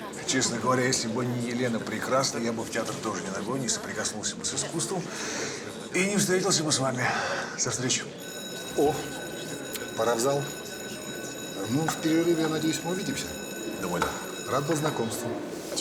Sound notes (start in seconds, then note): 8.2 ringing